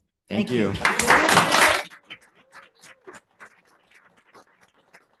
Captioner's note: audience applauding